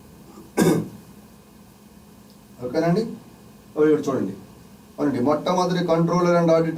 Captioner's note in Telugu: గొంతు సవరించుకోవడం